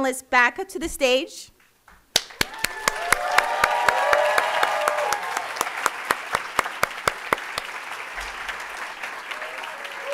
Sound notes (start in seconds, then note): 2.2 audience applauding and cheering